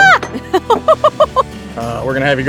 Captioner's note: laughing